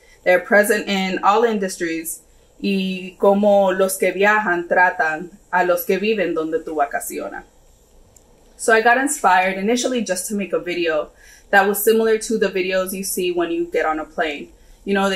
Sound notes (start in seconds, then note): 2.9 speaks in foreign language